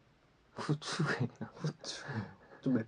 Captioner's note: laughs